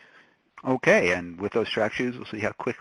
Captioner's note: voiceover